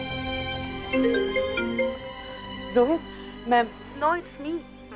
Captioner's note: Cell phone ringing